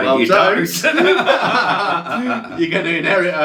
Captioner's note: both laugh